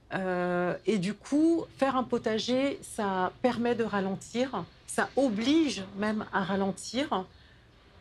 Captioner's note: none